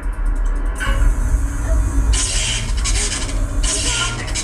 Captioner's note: engine sounds begin